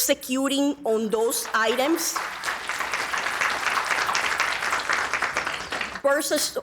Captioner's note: audience applauding